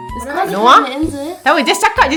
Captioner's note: speaking German